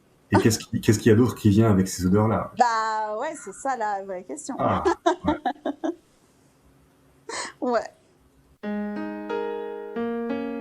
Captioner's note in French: rires